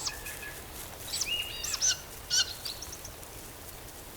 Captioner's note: bird screeches